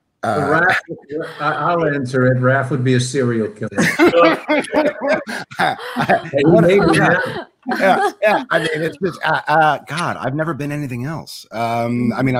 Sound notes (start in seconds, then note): 3.7 members laugh